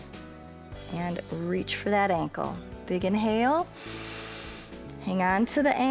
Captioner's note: inhales